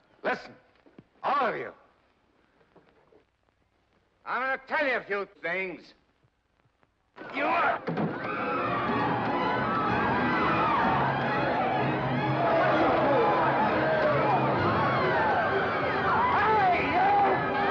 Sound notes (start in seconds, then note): 8.2 eggs pelting; 8.2 suspenseful music; 8.2 woman screams; 9.8 commotion & chaos; 9.8 suspenseful music; 17.5 commotion & chaos; 17.5 suspenseful music